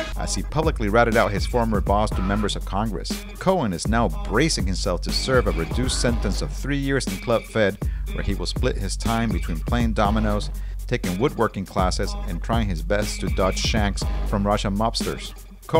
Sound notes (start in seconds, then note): none